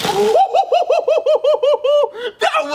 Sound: laughing

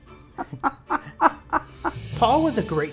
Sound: laughs

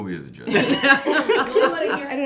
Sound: all laugh

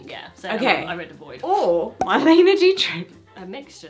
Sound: cork popping

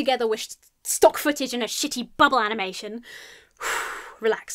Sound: exhales sharply

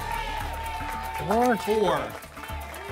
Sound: audience shouting numbers

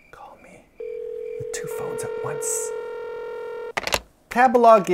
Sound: whispering; dial tones; hangs up

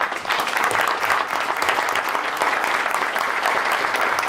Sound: applause

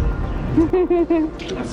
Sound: laughing

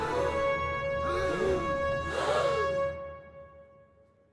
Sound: gasps

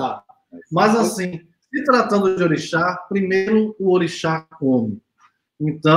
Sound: speaks portuguese

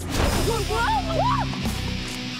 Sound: whoosh

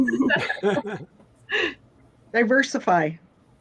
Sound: laughter

